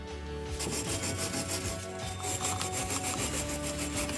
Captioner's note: brushing